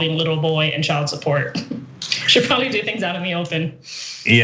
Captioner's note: laugh